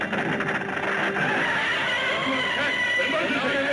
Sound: Gammera screeching

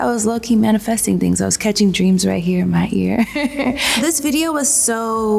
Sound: laughs

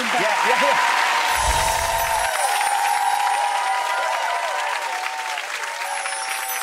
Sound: audience applauding and cheering

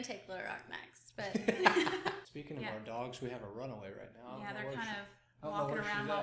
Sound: laughs

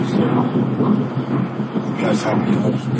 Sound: car noise

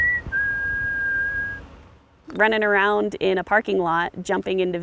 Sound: whistles

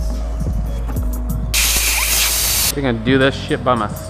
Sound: air compressor blows

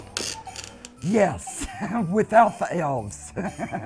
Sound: laughs

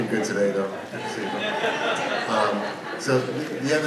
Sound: audience laughs

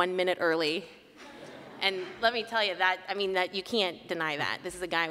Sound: laughter

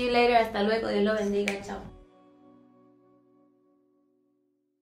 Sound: in foreign language

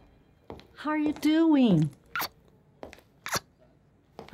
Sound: kisses

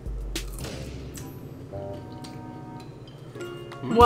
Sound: food crunching; playful music

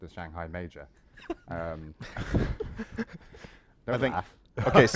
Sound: laughter

